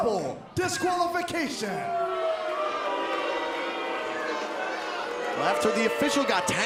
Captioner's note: crowd chatter